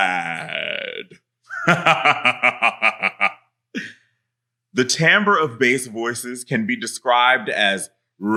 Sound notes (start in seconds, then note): 1.5 laughing